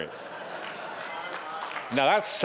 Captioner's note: audience laughing